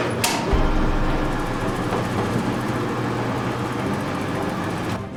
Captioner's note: elevator whirring